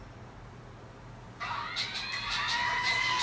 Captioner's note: phone ringing